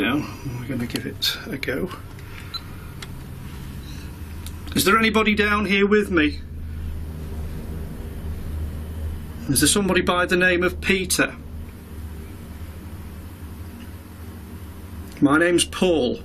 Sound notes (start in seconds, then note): 2.4 beeping